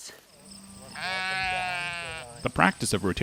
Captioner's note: sheep bleating